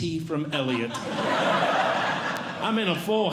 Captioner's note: audience Laughing